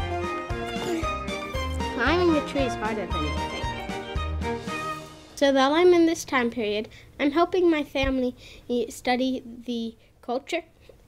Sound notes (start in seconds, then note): 0.6 grunts